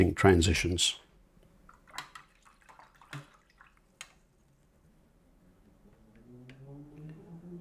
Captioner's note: silence